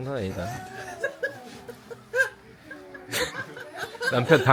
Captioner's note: kkkk